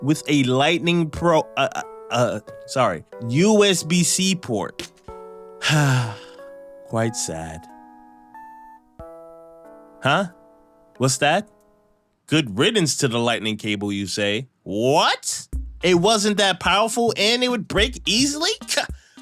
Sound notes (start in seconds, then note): 5.6 sigh